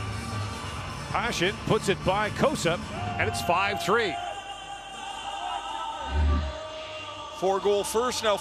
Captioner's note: horn